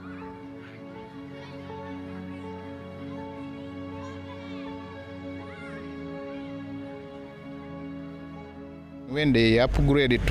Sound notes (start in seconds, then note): 0.0 children's voices shouting